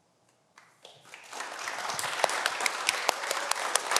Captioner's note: everyone applauds